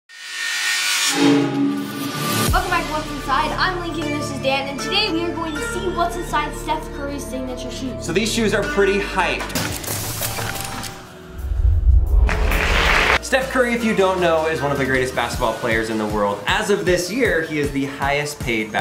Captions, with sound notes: (intense music) - Welcome back to What's Inside, I'm Lincoln and this is Dan and today we are going to see what's inside Steph Curry's signature shoes. - So these shoes are pretty hyped. (mysterious music) (audience applauds) Steph Curry if you don't know is one of the greatest basketball players in the world. As of this year, he is the highest paid